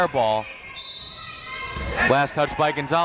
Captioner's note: whistle tweeting